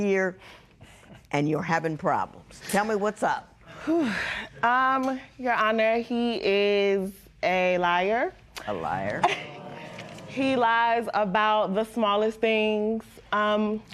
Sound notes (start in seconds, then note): 5.0 sighs; 9.2 spectators murmur